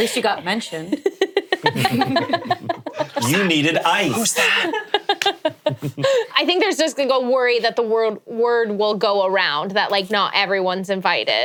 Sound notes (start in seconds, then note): 1.2 all giggling